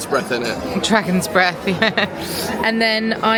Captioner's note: laughing